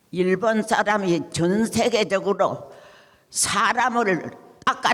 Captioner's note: speaking in foreign language